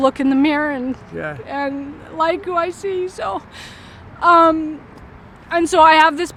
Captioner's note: crying